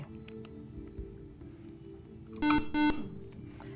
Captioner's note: buzzer